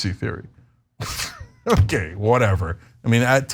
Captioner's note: laugh